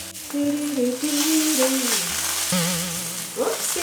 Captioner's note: humming cheerfully